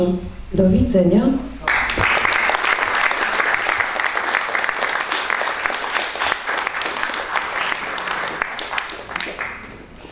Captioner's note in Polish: oklaski